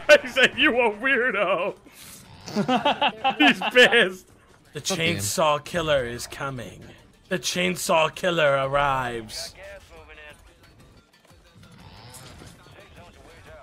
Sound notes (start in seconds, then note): 0.1 laughs; 11.6 chainsaw revs